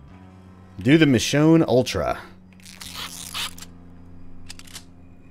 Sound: tinkering sounds

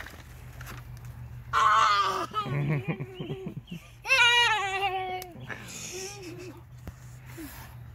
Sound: makes excited noise

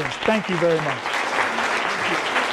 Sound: applause

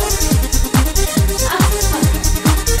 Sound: laughs

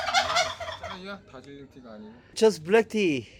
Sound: turkey reacting to loud noise

